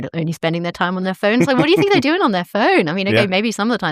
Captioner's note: laughter